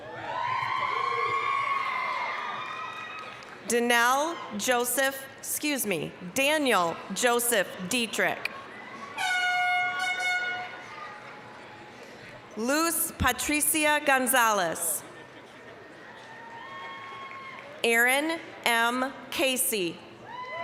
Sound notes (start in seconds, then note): 0.0 applause, cheering; 8.9 applause, cheering; 9.2 air horn blasting; 16.2 applause, cheering; 20.4 applause, cheering